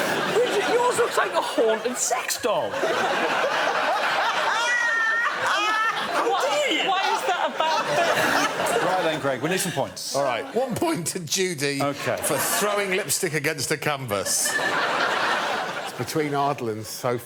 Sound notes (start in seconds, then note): 4.3 laughter